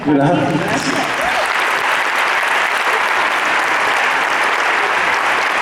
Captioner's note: applause